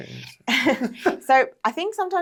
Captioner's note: both laughs